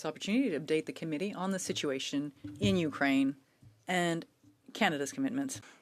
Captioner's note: speaking French